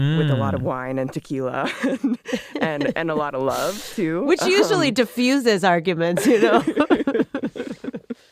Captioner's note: laughs